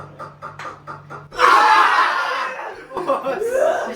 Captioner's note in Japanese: 笑い